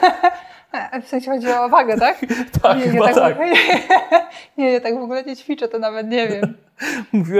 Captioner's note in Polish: śmiech; śmiech